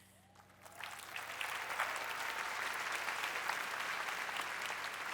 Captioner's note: applause